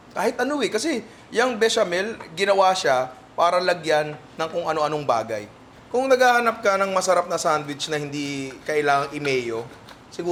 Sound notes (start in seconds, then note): none